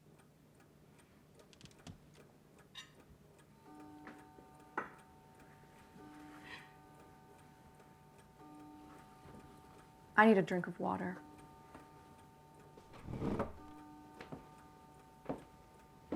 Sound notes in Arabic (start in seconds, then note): 3.6 دقات الساعة